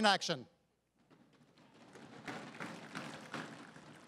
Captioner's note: crowd applauding